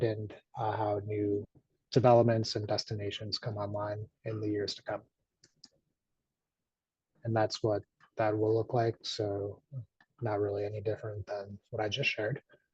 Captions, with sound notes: and how new developments and destinations come online in the years to come. (mouse clicks) And that's what that will look like. So, not really any different than what I just shared.